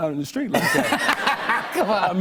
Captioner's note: laughter